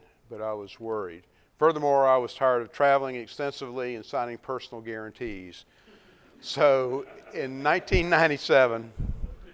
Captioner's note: laughs